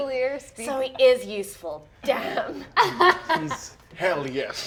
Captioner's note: laughs